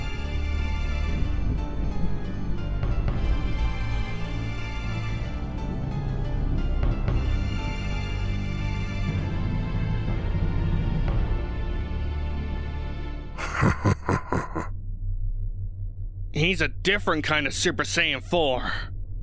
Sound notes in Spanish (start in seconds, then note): 13.4 Risas